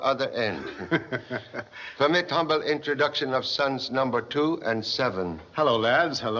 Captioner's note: chuckles